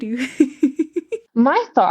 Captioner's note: laughs